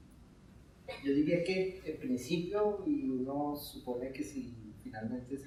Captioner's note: speaking in Spanish